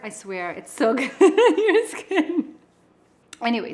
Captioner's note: laughs